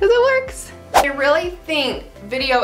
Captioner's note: swoosh